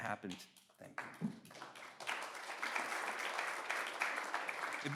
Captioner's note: audience applauds